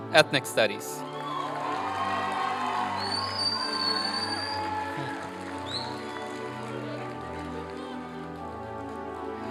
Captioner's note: applause and cheering